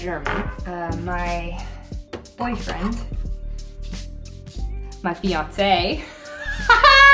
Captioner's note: laughing